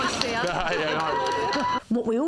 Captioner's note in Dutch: William lacht